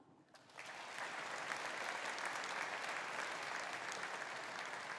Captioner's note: audience applauding